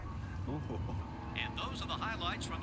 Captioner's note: grunts